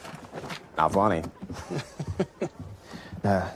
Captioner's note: Hickam laughs